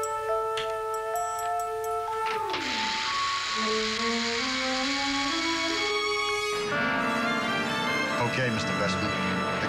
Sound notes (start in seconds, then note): 0.0 door clicks close; 4.4 mechanical whirring